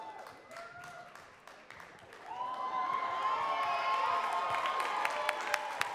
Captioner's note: audience cheering and clapping